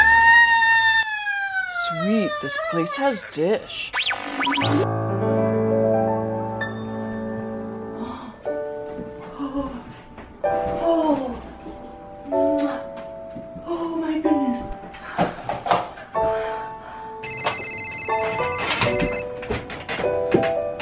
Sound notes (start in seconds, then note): 3.8 tv channel static; 4.8 joyful piano music playing; 15.2 phone ringing